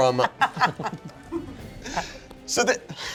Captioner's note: laughing